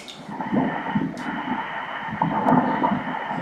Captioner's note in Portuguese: batidas do coração